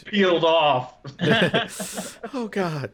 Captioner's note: laughter